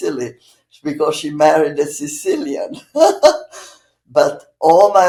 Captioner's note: laughing